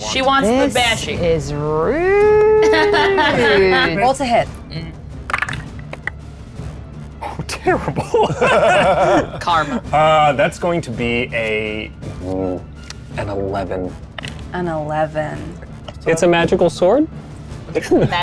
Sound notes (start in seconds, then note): 2.3 laughs; 7.2 group laughs